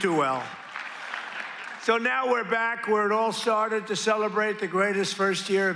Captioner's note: applause